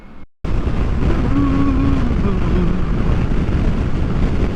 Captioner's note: humming